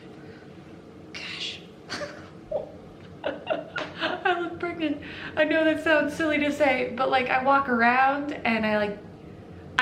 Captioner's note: chuckle